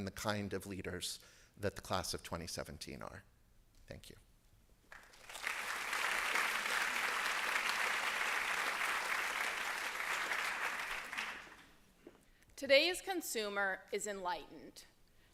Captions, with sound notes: the kind of leaders that the Class of 2017 are. Thank you. [APPLAUSE] Today's consumer is enlightened,